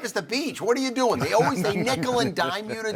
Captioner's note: all chuckle